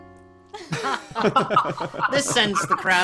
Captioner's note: crowd laughing